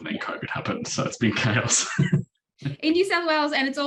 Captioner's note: chuckles